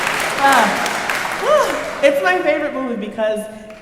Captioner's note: sighs